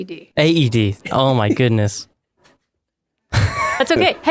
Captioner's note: laughs